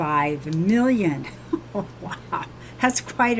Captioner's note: laughs